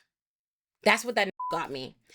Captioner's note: beep